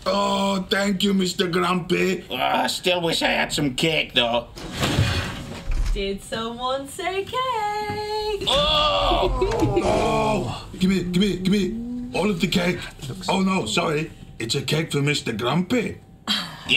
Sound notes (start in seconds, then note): 4.6 door clicking; 8.5 laughing